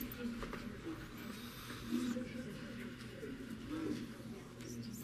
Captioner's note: audience chattering